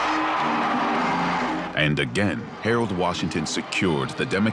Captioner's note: crowd cheering